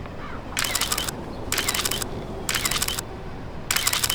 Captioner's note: camera clicking